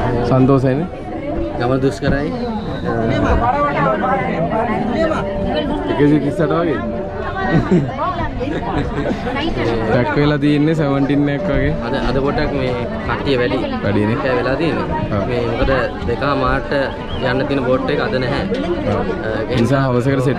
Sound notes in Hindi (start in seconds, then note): 7.4 हस रहा